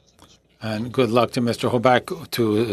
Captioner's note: speaking French